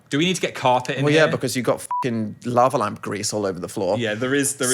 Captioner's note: beep